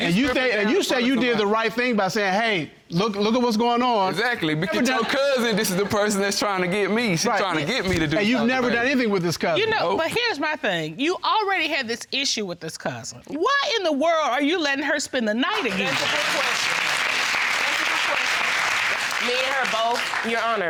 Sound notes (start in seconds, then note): 0.0 stammers; 15.6 audience applauding